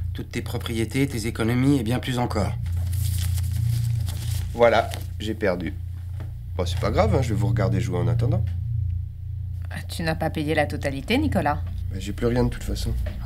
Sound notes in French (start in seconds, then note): none